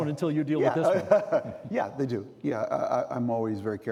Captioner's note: laughing